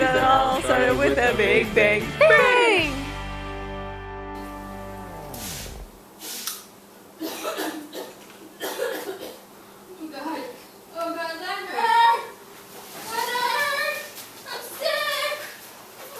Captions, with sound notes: That all started with the big bang! BANG! *coughing* Oh God, oh God. Leonard?! Leonard I'm SICK!